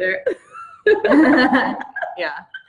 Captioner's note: laughs